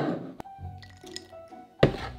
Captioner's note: peanuts dropping